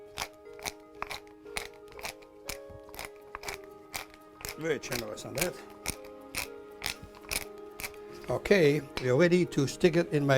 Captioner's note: pepper mill grinding